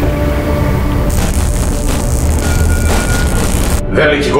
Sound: electricity

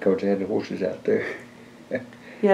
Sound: laughs

